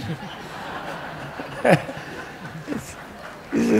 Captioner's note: laughing